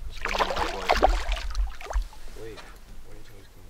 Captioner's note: splash